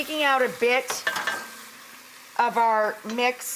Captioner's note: spoon clanks